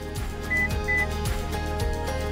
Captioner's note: upbeat music; electronic beeps